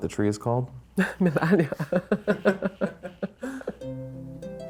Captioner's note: laughs